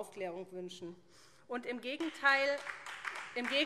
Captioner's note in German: Beifall SPD